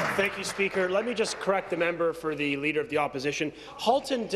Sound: applause

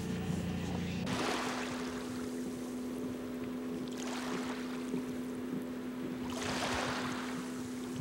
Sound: water splashing gently

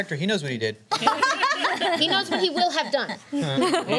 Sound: laughter

